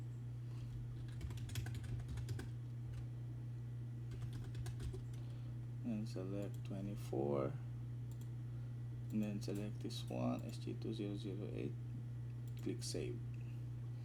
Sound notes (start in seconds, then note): 1.0 typing